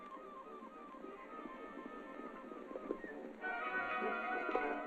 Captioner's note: hooves galloping